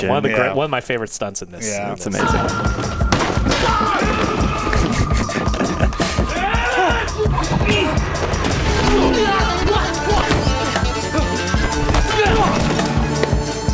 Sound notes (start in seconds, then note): 2.8 intense music; 6.3 gangster shouting